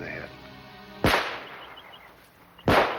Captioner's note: gunshots